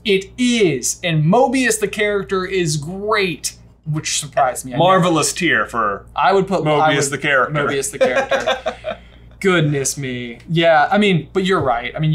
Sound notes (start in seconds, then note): 7.8 laughs